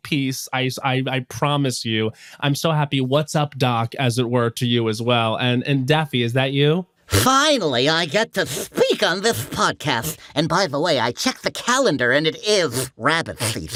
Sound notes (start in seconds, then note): 7.3 lisping